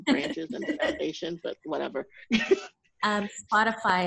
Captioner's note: chuckles